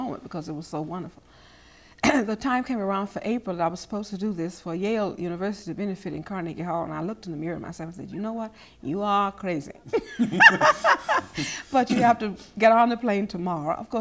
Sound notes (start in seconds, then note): 9.9 laughing